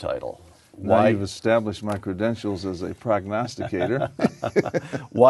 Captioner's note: laughter